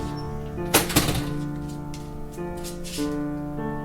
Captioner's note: door squeaking; door thuds; eerie gentle music continues